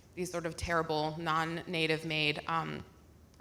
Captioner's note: none